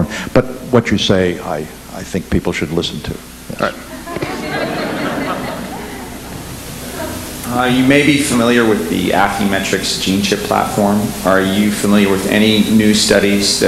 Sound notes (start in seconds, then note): 3.8 audience laughing